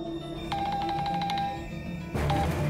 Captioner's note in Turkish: Telefon çalıyor